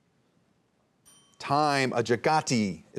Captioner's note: bell dinging